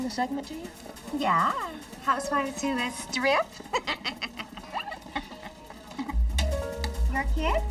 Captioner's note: laughs